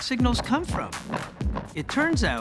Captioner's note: thumping